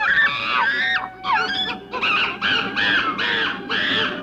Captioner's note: chimpanzees screeching